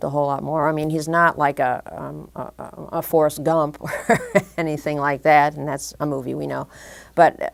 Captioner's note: laughter